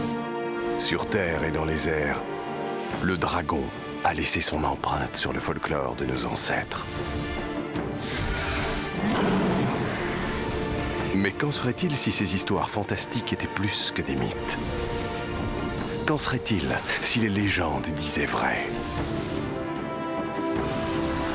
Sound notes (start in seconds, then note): 8.1 growling